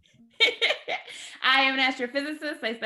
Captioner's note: chuckles